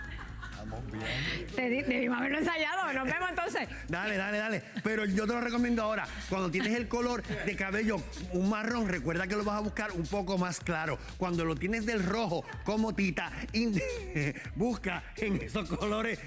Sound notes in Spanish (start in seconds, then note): 6.2 risas